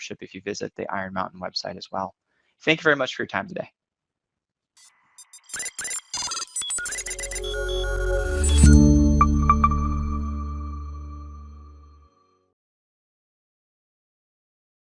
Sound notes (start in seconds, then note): 5.2 robot beeping; 7.0 soft music